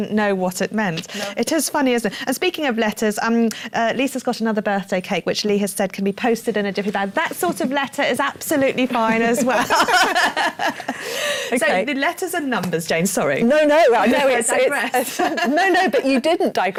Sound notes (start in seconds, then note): 9.0 laughs